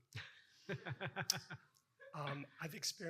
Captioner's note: laughing